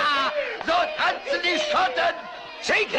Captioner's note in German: Schreien